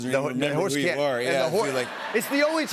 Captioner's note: laughter